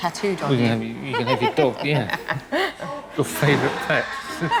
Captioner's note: pet owner laughs